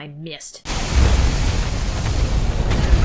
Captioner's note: big splash